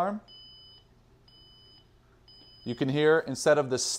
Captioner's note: beeping